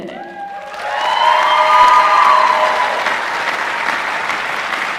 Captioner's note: applause